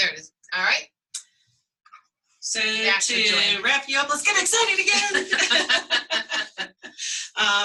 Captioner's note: laughter